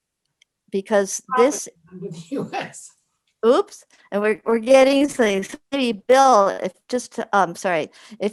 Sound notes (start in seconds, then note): 2.0 giggles